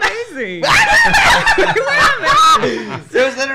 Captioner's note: laughs